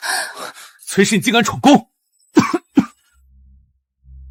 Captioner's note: cough cough